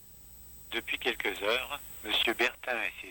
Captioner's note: french